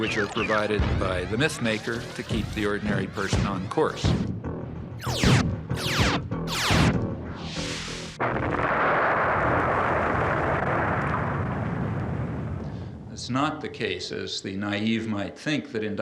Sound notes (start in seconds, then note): 6.4 space weapons whooshing; 8.1 explosion booming